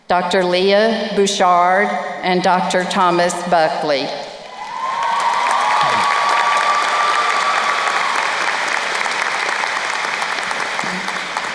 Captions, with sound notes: Dr. Leah Bouchard and Dr. Thomas Buckley. (crowd cheering and applauding)